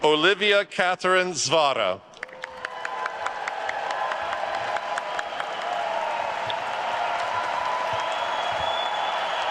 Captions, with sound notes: Olivia Catherine Zvara. (attendees cheering and applauding)